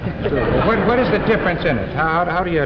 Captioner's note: laughter